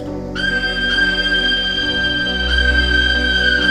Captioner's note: actor shrieks